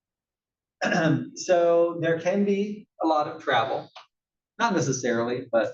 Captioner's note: cough